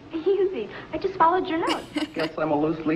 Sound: giggling

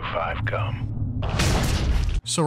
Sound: bang

